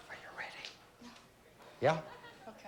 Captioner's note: whispers